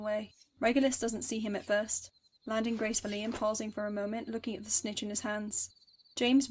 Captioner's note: rustles